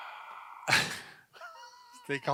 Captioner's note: laughs; chuckles